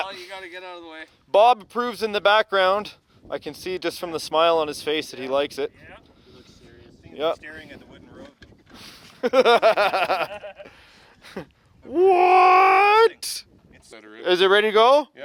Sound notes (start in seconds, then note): 9.2 laughing